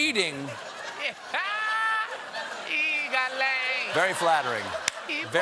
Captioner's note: laughter